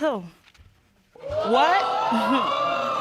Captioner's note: audience exclaiming